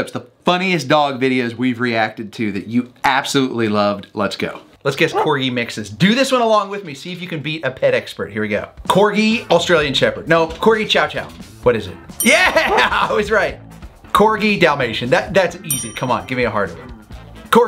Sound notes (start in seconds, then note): 5.1 dog barks; 12.6 dog barks; 15.6 bell dings